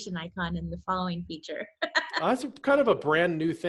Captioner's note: laughs